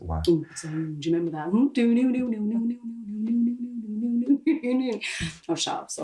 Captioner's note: Penny making spooky noises